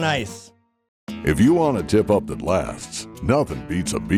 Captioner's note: voiceover